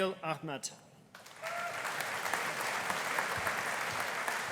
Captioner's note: audience applauding